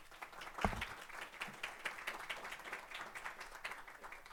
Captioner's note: applause